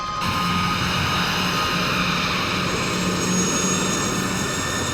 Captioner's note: jet engine roaring